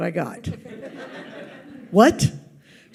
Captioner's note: audience laughs